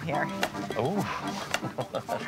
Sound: chuckles

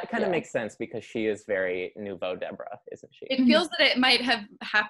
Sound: speaks in foreign language

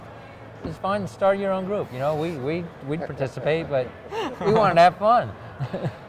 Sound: laughing

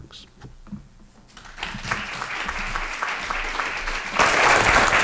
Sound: applause

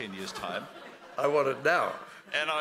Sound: laughing

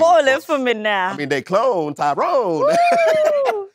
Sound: laughs

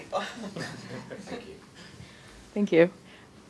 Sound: chuckling

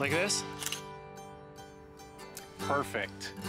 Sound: camera clicks

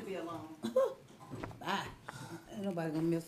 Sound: chuckles

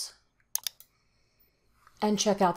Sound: mouse clicks

